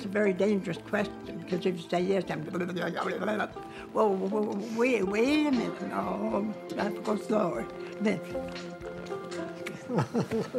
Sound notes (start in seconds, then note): 3.0 mimics fast speech